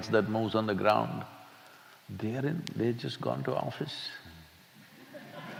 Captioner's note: laughter